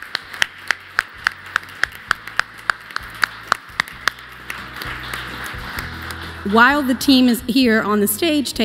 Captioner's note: applause